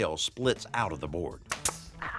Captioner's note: nail gun fires